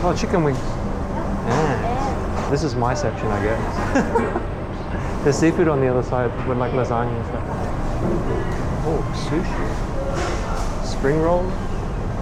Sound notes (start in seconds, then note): 3.7 laughing